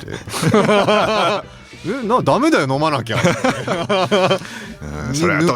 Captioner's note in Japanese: 笑い